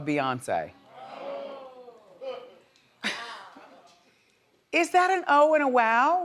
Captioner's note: audience reacts; chuckles